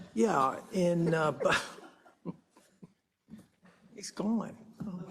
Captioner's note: laugh